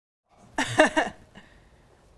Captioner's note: person laughs